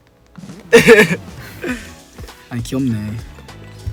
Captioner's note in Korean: 웃음